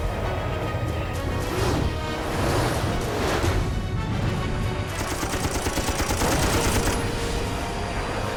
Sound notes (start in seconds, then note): 4.2 tense music playing; 4.9 gunfire